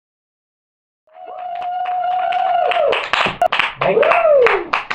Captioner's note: applause